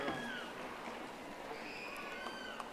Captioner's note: audience applauding